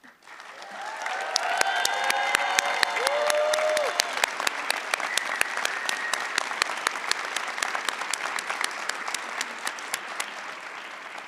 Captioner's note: applause